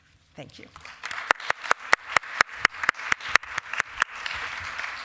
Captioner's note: applause